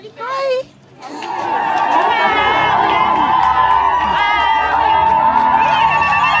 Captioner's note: crowd cheering joyfully; intense instrumental music